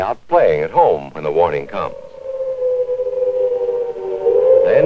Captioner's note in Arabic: صفارة إنذار